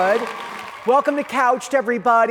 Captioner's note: audience cheering